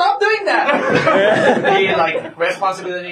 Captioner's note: laughter